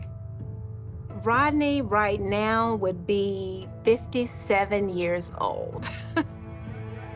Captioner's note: chuckles